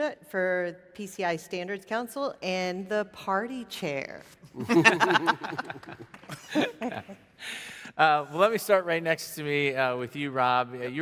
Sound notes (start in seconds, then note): 4.6 panelists laughing; 5.1 audience clapping